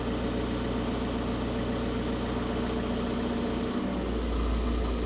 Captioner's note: engine humming continues